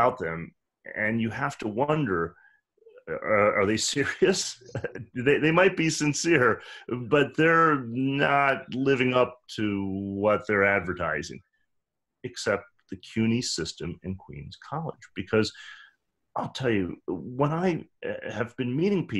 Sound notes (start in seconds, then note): 4.3 laughs